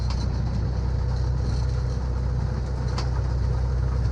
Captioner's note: plane humming